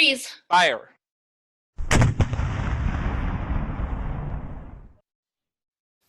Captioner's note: boom of heavy gun